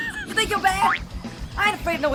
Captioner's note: laughs; spring bounces